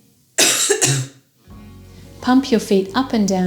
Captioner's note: patient coughs